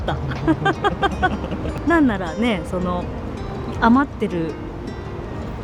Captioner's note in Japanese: 笑い